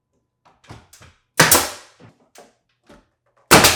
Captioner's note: nail gun popping; nail gun popping